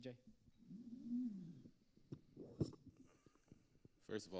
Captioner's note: microphone scraping